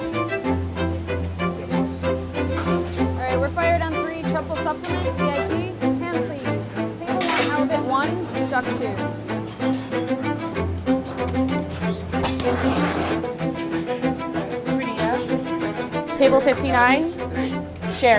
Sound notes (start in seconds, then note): 0.3 intense orchestral music; 9.6 intense orchestral music; 12.1 torch roaring